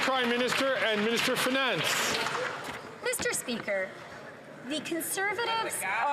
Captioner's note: some Applause